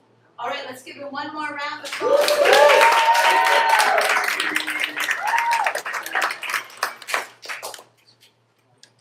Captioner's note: applause